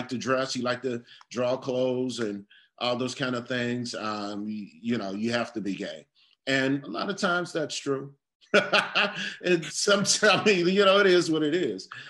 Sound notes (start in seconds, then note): 8.5 laugh